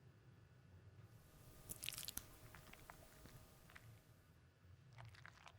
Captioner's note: fruit squishing